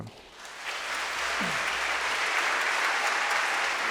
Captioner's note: crowd clapping